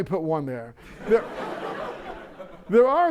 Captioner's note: laughter